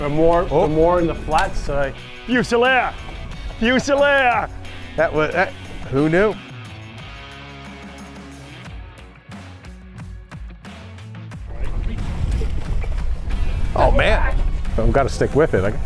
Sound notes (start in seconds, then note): 3.5 laughs